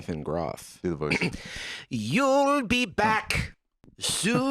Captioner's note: clears throat